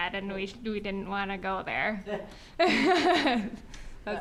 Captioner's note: laughing